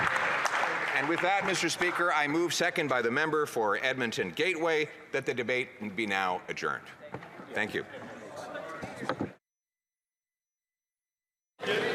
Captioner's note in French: applaudissements